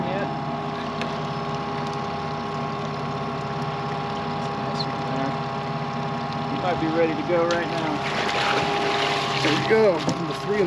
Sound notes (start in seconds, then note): 7.2 fish splashing